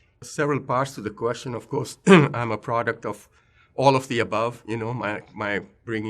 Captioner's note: cough